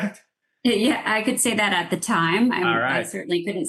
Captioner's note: laughs